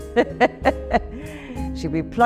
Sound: laughs

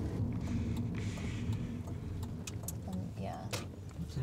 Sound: turn signal clicking

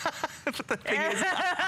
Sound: laughter

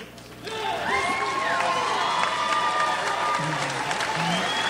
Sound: audience applauds

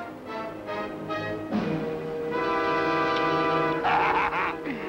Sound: dramatic music; gun clicking; Malamos laughing

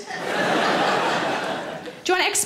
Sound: audience laughs

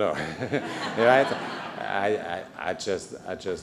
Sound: laughter

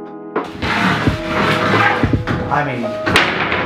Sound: mellow hip-hop music; reverberating scraping

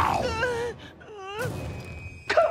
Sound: groaning

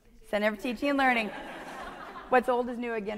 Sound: audience laughing

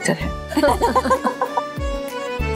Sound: laughing

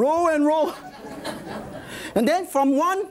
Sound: audience laughs

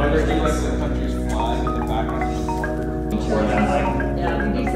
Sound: crowd conversation

